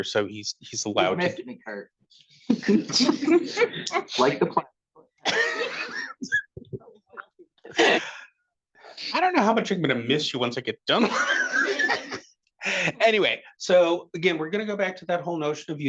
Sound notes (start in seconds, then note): 4.4 attendees chattering; 4.4 laughing; 10.8 laughing